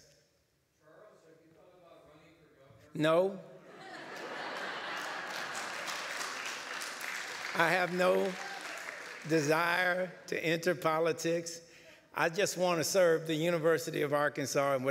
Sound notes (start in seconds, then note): 3.8 laughter, light applause